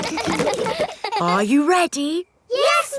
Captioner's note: kids laughing